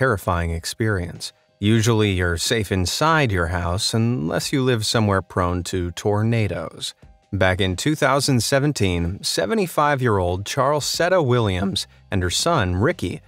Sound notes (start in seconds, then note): none